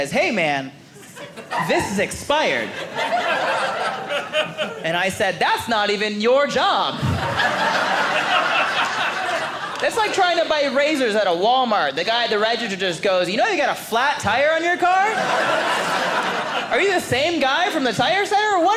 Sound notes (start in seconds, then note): 6.9 audience laughing